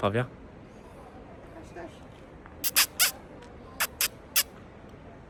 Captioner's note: imitates peacock sounds